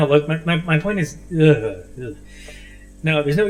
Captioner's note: Ace makes disgusted noises